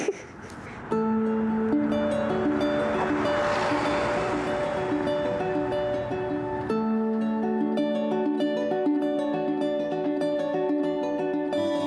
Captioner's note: laughter